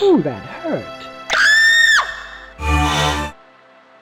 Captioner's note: scream